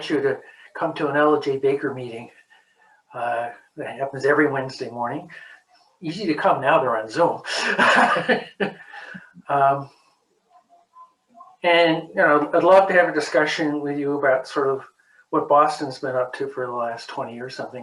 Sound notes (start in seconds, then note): 7.4 laughs